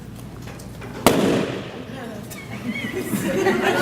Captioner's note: loud bang; laughter